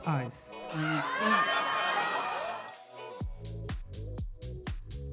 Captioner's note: upbeat music; audience laughing; upbeat music